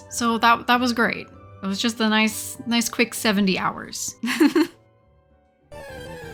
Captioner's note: laughs